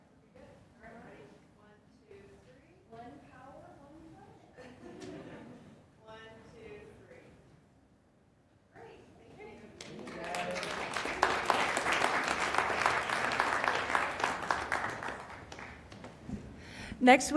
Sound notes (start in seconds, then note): 9.7 applause